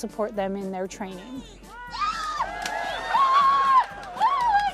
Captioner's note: screaming